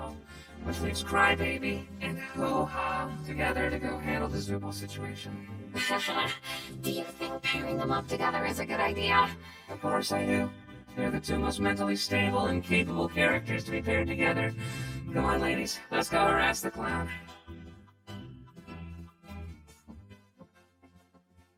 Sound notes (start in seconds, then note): 5.8 laughs nervously